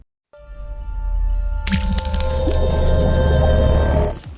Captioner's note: ethereal twinkling